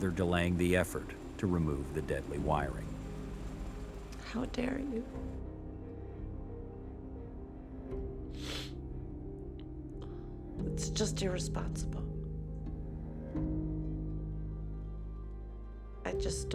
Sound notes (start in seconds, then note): 8.4 sniffling; 13.7 slow, somber music